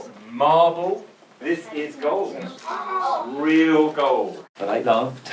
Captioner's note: children in awe